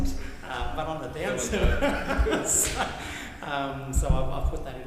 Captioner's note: laughs